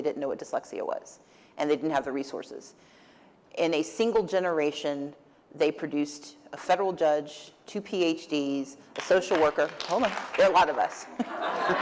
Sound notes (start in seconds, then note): 8.9 applause; 11.1 laughter